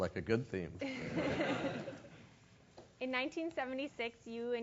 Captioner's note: laugh